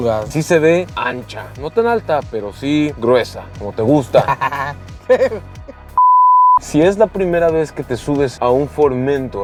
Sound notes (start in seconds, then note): 4.0 nervous laughter